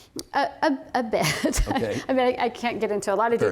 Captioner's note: laughter